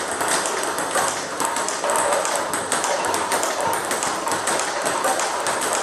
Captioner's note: ball ping pong hitting continues